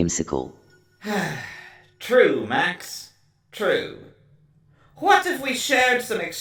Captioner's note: sigh